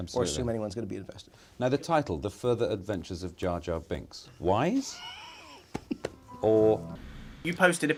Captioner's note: laughs